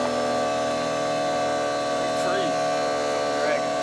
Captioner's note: engine revving